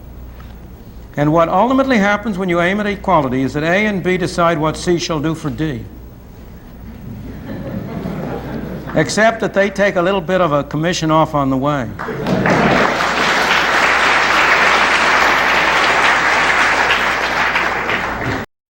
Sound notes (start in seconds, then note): 12.0 laughter and applause